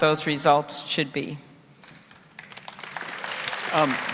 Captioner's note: applause